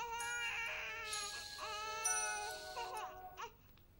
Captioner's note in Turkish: bebek ağlama sesi̇; telefon çaliyor